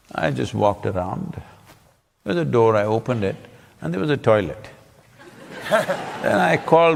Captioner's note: laughter